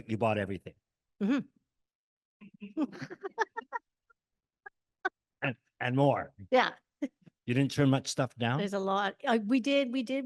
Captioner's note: chuckles